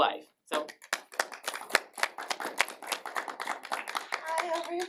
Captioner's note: applause